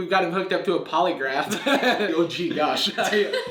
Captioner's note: laughs